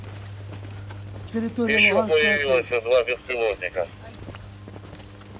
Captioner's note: over radio